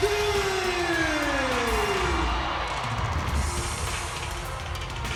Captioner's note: audience cheers